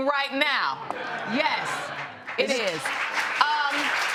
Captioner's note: applause